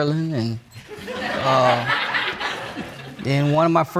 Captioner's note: audience laughing